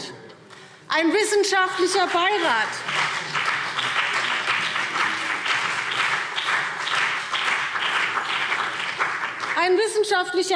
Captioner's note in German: Beifall BÜNDNIS 90/DIE GRÜNEN